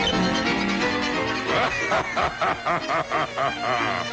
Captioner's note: butcher laughing; frenzied music